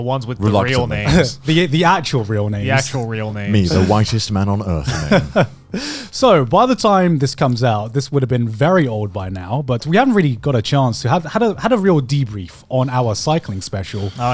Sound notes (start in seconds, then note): 4.7 laughing